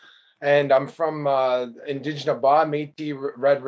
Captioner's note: speaking in a indigenous language